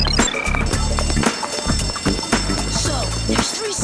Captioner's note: bell ringing